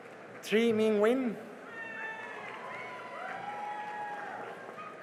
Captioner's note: cheering and applause